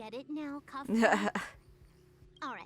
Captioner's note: laughs